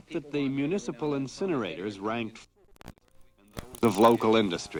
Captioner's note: static